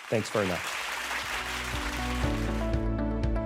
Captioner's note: audience clapping